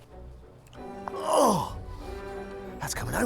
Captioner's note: groaning